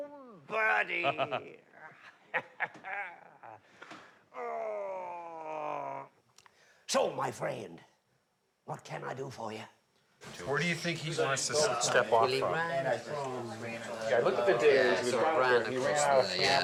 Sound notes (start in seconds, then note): 0.8 laughing; 4.3 groaning